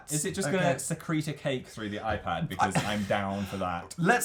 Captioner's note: laughs